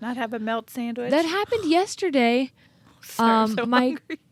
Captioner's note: chuckling